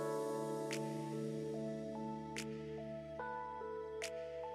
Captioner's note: rhythmic snapping